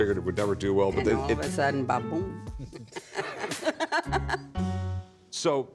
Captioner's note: laughter